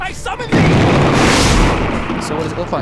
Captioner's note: crash!